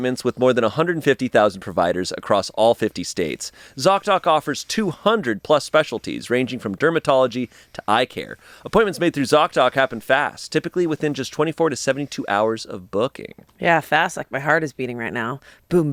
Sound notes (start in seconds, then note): none